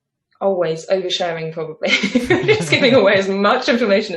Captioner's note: both laughing